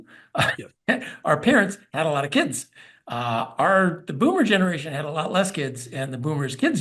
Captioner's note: laugh